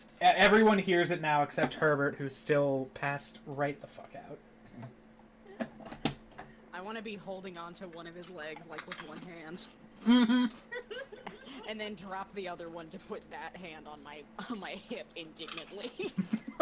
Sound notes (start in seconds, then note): 10.0 laughing